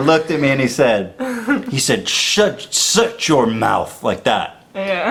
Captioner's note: imitates Israeli accent